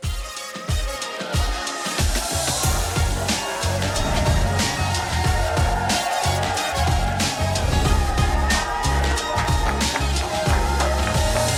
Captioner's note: chatter